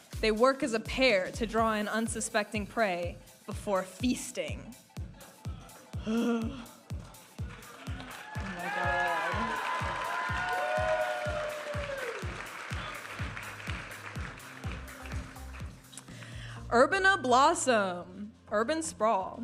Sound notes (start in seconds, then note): 9.5 audience applauding and cheering; 14.0 vibrant music